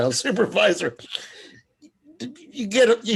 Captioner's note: laughs